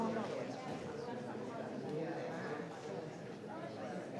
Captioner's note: people chattering